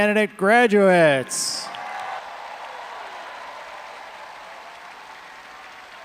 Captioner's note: all applauding and cheering